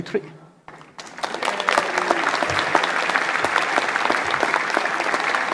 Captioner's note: applause